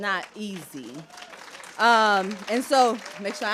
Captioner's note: applause